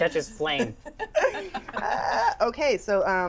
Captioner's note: laughter